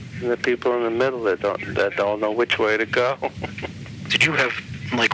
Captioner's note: laughs